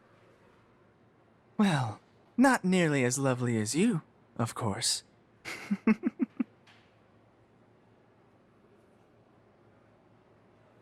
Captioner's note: soft laugh